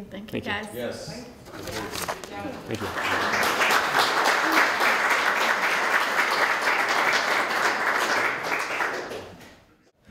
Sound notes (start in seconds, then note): 2.6 applause